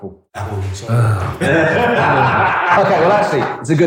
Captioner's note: laughs